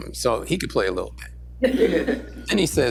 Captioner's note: laughter